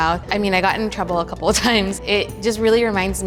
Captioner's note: chuckling